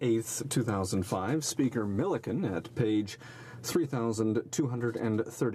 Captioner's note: speaking French